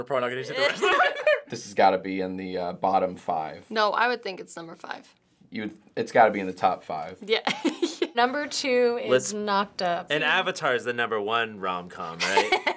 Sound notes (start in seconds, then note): 0.6 both laugh; 7.5 laughs; 12.2 laughs